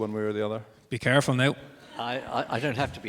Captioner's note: audience laughs